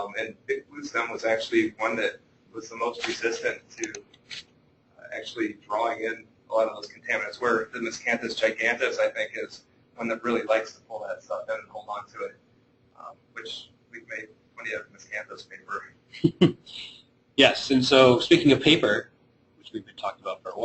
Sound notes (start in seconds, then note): 16.1 chuckling